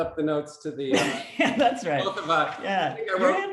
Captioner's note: laughs